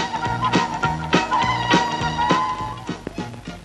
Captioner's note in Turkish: Çarşı pazar ortam gürültüsü